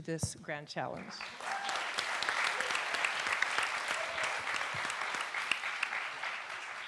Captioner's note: audience and panelists applaud